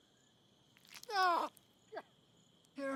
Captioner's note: man yelling